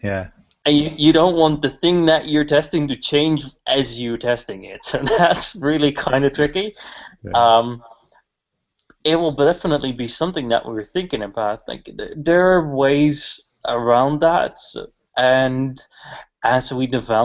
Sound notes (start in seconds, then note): 4.8 laughter